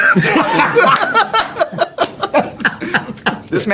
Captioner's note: laughter